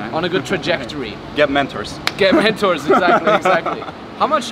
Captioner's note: laughs